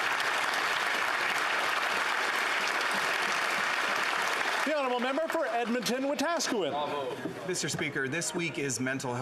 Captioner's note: applause